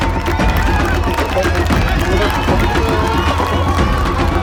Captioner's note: upbeat drums music; cheers